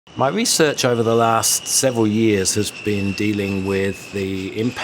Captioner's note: voiceover